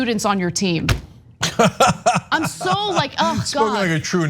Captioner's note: laugh